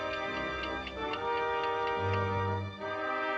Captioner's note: ticking